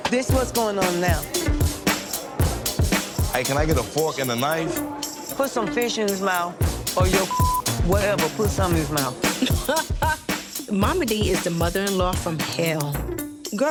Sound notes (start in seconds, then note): 1.3 upbeat music; 7.2 beep; 9.1 laughing